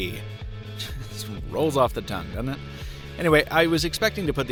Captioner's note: laughs